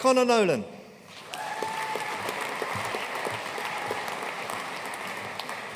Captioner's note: audience cheering and applauding